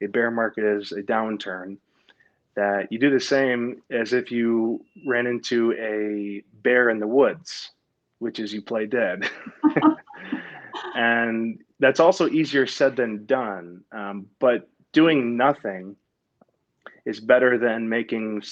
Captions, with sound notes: a bear market is a downturn, that you do the same as if you ran into a bear in the woods, which is you play dead. (laughing) And that's also easier said than done, but doing nothing is better than making